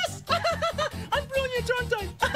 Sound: laughs

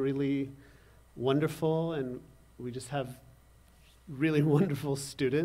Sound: laughter

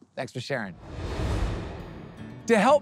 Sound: transition whooshing; upbeat music

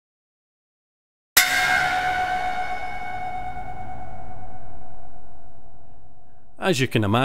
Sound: sound plays with a reverb that builds in length and intensity

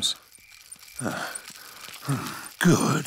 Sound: panting

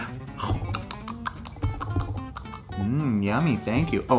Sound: mouth smacks

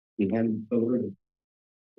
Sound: background conversations

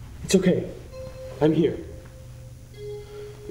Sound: none

